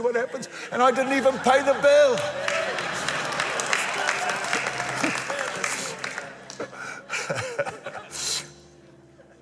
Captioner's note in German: Applaus